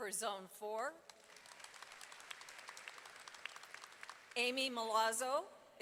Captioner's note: audience applauding